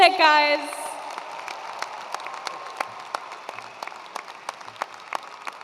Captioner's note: attendees applauding